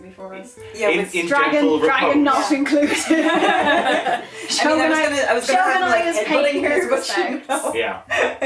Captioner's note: laughter